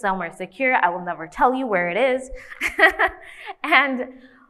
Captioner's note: laughs